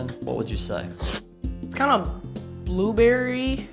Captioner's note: slurping